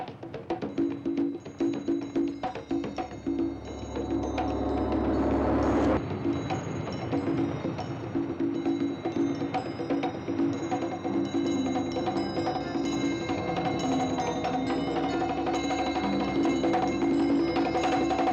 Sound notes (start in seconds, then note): 0.7 chimes ring; 0.7 drum music; 11.1 drum music intensifies; 11.1 eerie tone